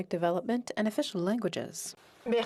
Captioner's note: speaking French